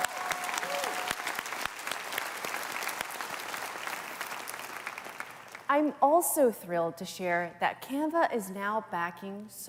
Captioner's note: cheers and Applause